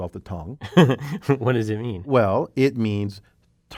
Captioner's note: laugh